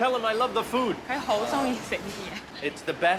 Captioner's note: speaking Chinese dialect